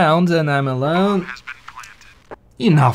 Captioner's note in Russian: Звук установленной бомбы